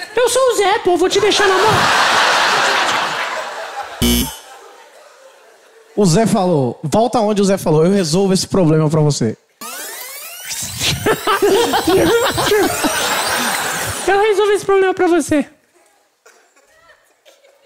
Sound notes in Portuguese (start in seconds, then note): 4.0 campainha; 9.6 fita rebobinando